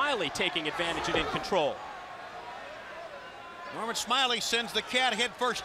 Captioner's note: crowd chatter